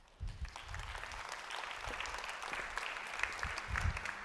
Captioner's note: applause